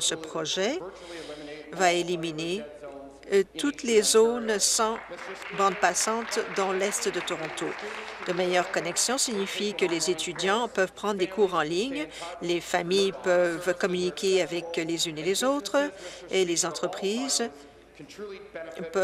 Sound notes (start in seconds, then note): 8.5 applause